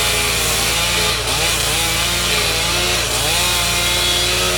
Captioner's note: chainsaw humming